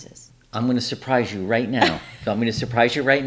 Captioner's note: laughs